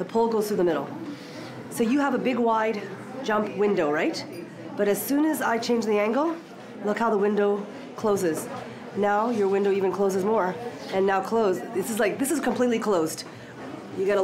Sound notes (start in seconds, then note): none